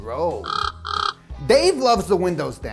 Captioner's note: bird chirping